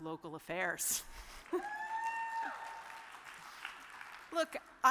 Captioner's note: audience cheers